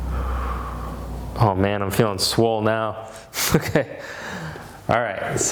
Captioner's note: chuckles